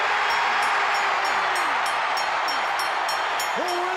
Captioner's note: bell ringing; crowd cheering